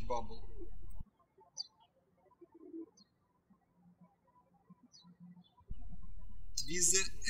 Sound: birds chirping

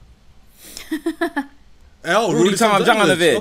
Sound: laughter

